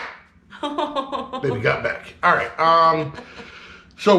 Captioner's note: chuckling